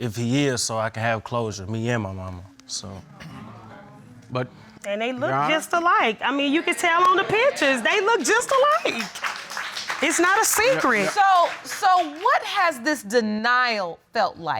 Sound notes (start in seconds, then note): 6.7 audience applauding